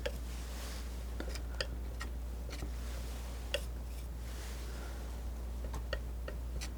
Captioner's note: tapping